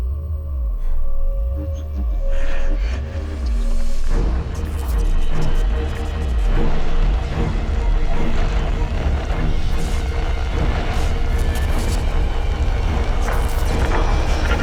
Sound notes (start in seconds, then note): 2.3 ghostly voice whispers; 5.1 suspenseful music